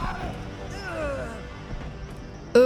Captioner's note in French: gémissements du personnage